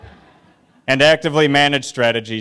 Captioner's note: laughter